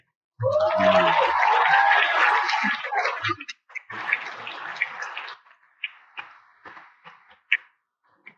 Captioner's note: cheers and Applause